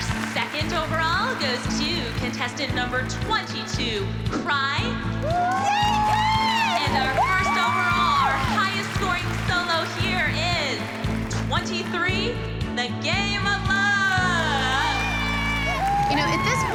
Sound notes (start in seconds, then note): 13.2 cheering and applause